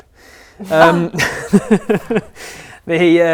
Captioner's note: laughs